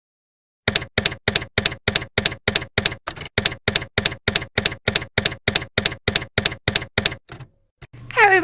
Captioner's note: typewriter keys clacking